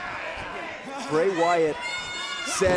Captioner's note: crowd chatter